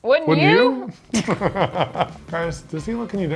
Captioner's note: both laughing